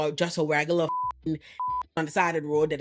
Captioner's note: beep